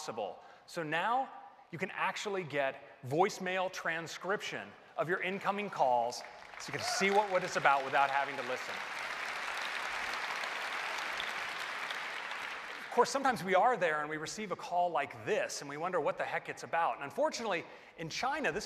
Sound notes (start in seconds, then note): 8.0 applause